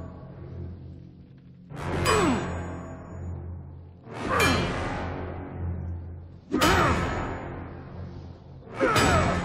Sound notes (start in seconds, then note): 2.8 grunting; 5.0 hammer clanking